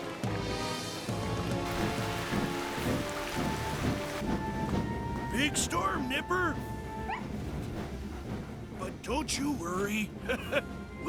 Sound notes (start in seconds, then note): 1.7 wind & Rain Blasting; 7.0 Nipper Yips; 10.2 chuckles